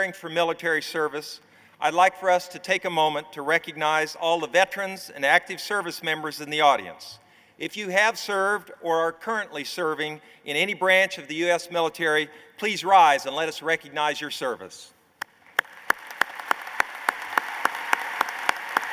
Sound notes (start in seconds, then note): 15.2 applause